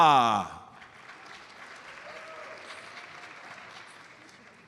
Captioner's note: audience applauds